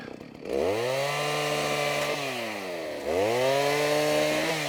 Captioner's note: chainsaw buzzing